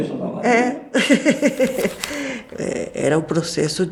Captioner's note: laughter